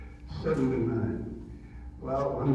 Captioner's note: audio distorts